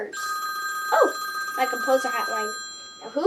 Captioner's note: the Phone Rings